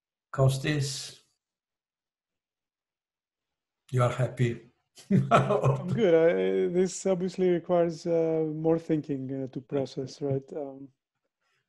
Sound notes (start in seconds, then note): 5.1 laughs